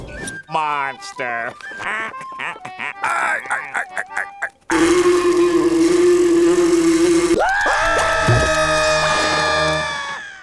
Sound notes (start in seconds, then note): 1.6 laughing; 4.7 buzzing; 7.3 screaming